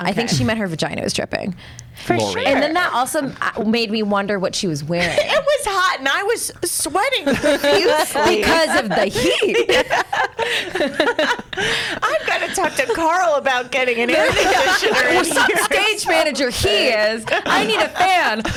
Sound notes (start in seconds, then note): 9.7 laughs